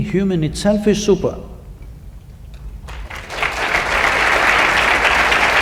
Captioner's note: applause